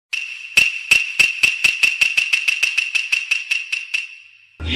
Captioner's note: Japanese Wood Clacks